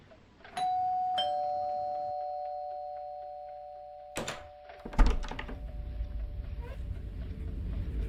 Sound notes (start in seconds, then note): 0.6 door bell chiming